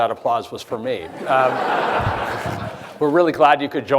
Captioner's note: audience laughing